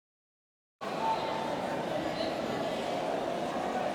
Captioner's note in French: Bruit de foule